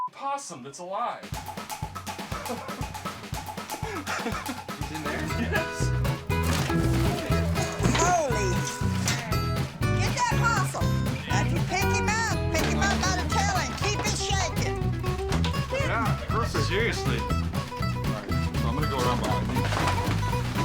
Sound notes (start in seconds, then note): 3.6 laughter